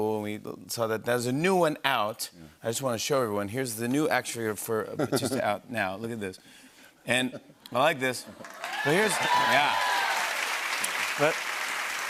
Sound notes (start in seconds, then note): 8.4 cheers and applause